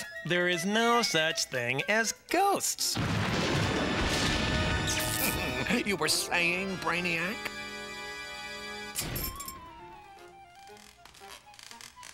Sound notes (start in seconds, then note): 3.0 thunder rumbling; 5.4 laughs; 10.7 stairs creaking